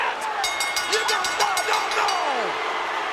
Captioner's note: bell ringing; audience booing